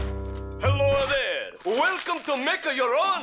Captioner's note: Italian accent